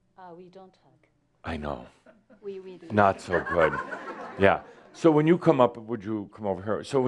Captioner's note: some chuckles